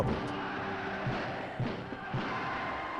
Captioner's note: soldier marching